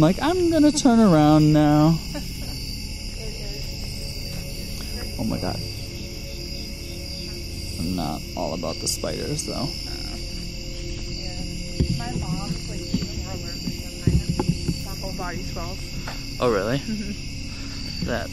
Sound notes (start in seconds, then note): 1.8 laughs